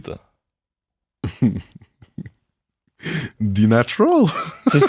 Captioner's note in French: rire